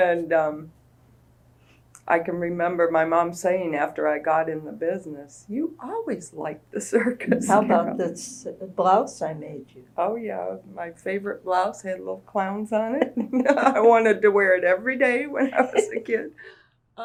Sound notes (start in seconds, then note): 0.1 laughs